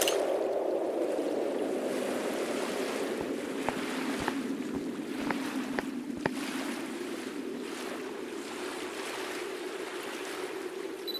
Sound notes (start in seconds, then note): 2.6 water waves hitting